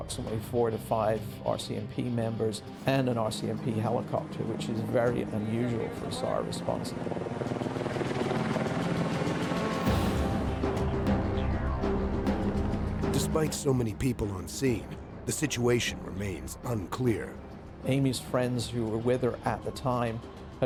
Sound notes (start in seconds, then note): 12.9 helicopter blades chop air; 14.8 intense music; 18.5 voiceover